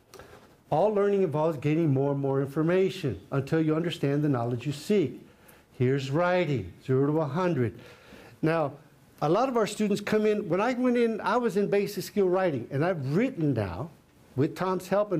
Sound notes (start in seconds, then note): none